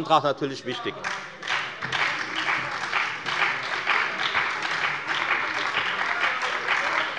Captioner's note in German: Beifall bei der FDP und der SPD - Lebhafte Zurufe von der CDU